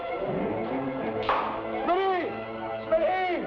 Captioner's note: stone bangs